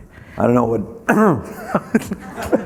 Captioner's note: everyone laughing; clears throat